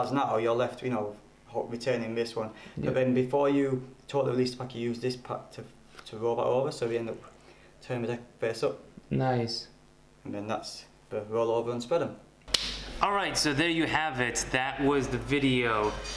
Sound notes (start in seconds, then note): 12.5 claps